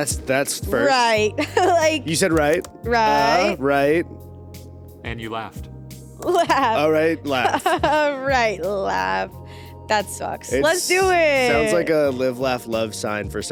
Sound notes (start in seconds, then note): 1.4 chuckles; 7.2 chuckles; 7.2 laughs